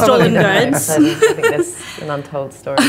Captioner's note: laughs